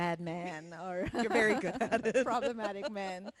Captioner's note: laughs